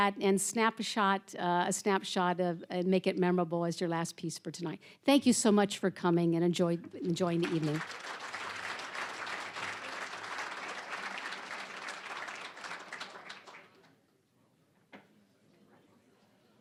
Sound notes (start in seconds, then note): 7.0 applause; 14.0 general chatter